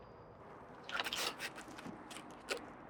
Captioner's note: door opens